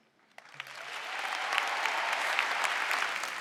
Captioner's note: applause